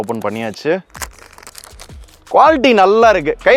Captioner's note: paper rustling noise